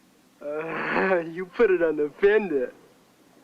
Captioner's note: giggling